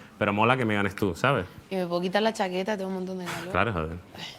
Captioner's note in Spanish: none